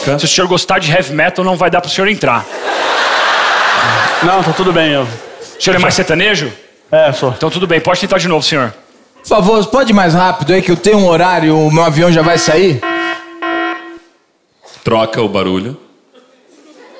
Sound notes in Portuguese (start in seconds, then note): 12.1 alarme